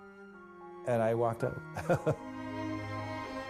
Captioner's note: chuckles